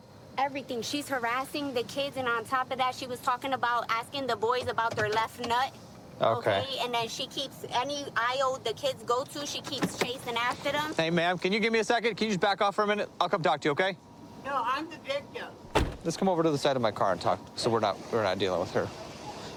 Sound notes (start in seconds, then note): 15.6 car door closes